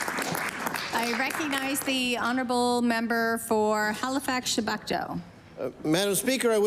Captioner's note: applause